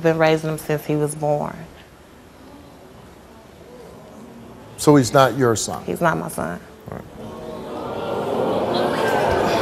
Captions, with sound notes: since he was born. (audience gasps) - So he's not your son. - He's not my son. (audience jeers)